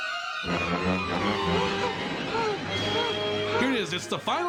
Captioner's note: woman whimpering